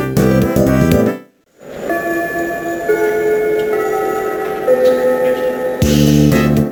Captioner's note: ding-dong, ding-dong